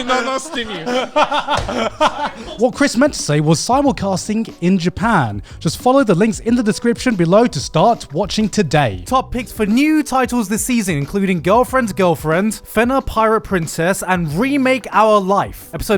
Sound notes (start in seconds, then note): 0.0 all laughing loudly